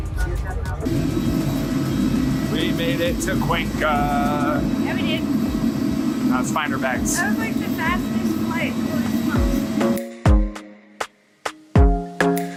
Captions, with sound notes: (engine roaring) - We made it to Cuenca. - Yeah, we did. - Now, let's find our bags. - That was like the fastest flight. (upbeat music)